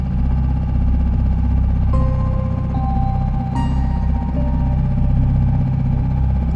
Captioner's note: boat whirring; slow somber music